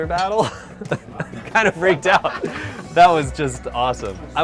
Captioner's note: laughs